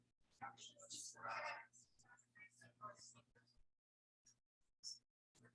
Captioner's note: people chattering indistinctly